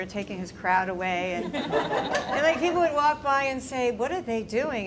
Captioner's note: laughter